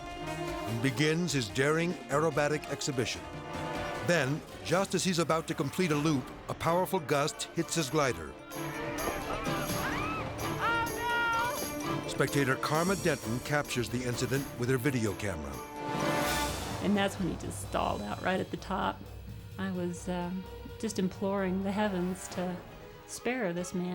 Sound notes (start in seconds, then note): 9.1 spectator screams